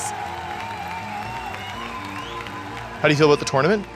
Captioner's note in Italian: applausi e grida